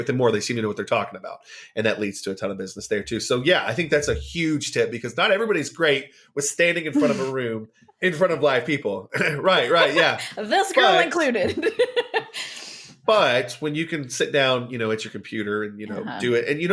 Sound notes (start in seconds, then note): 9.1 laughs